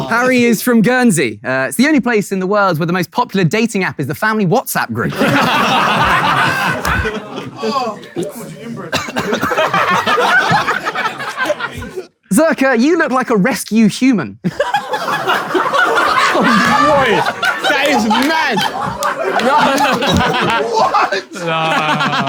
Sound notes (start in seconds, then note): 5.0 people in room laughing; 14.4 people in room laughing